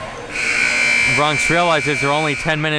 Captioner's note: buzzer blaring